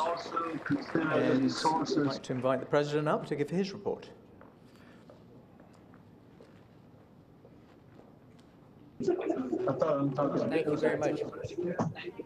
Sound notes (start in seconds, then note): 6.2 footsteps